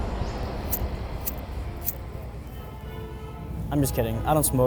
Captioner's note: lighter clicking